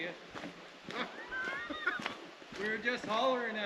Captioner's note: chuckles